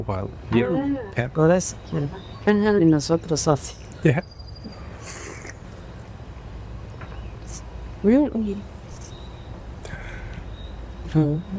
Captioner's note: and translator speaking spanish